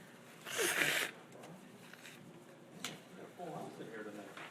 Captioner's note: blows nose